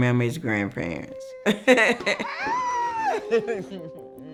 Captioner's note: laughing